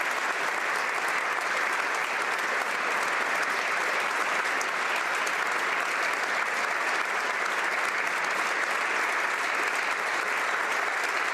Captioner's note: applause